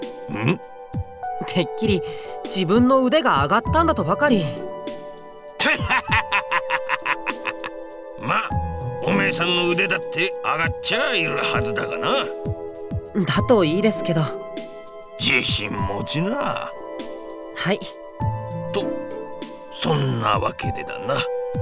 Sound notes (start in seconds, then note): 5.6 laugh